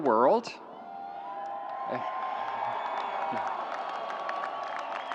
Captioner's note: audience applauds